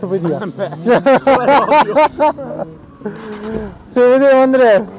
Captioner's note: both laughing